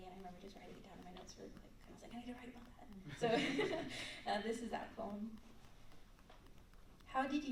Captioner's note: laughter